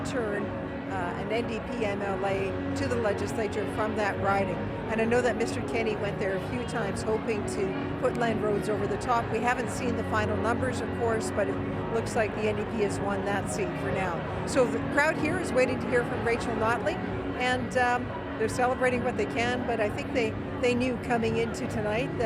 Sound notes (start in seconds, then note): none